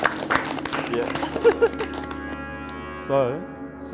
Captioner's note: group applauds; laughing